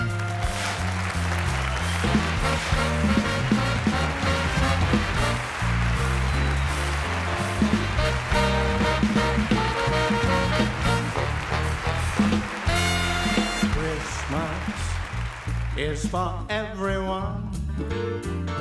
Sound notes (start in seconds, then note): 0.9 audience applauding